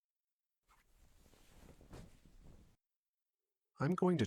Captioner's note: fabric rustling